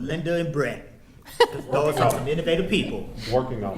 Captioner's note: attendees laughing